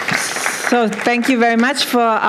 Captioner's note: applause